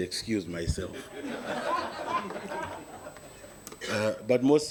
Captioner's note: audience laughing